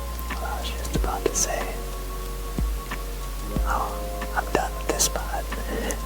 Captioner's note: laughs